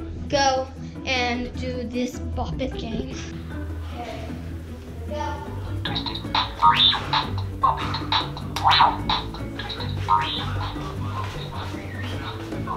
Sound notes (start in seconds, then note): 5.9 game making noises